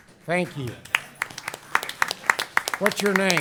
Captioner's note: applause